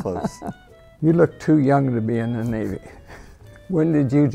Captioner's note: laughing; laughing